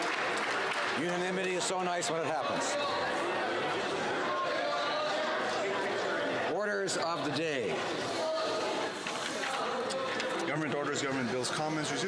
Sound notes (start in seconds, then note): 0.0 cheers and Applause; 0.0 applause